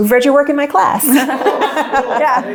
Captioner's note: group chuckles